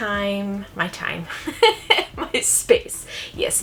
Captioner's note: laughs